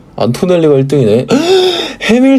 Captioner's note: gasp